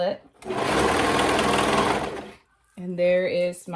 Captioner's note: machine whirring